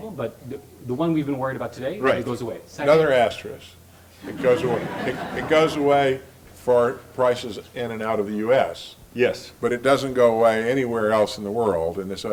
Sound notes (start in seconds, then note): 4.2 laugh